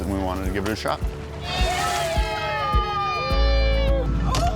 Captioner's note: cheering